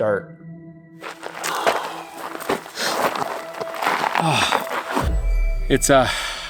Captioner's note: sighing and grunting